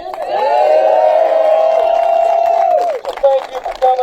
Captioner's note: applause